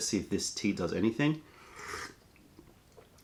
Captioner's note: sips tea